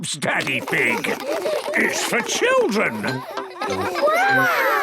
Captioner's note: children laughing